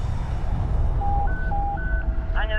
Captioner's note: beeping